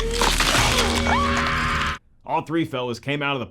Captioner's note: woman screams